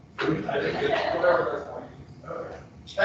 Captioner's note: people laughing drowns out speaker